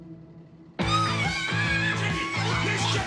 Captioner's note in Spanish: Gritos